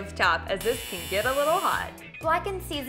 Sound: alarm buzzes

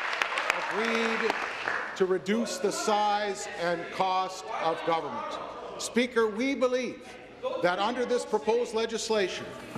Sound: applause

